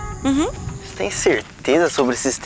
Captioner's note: forest noises